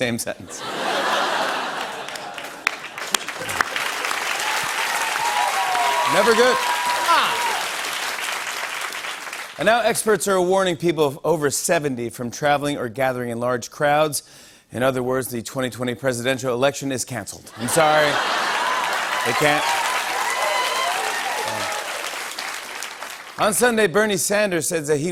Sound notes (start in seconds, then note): 0.5 laughter; 3.2 cheers and applause; 17.6 laughter, cheers, applause; 19.5 cheers and applause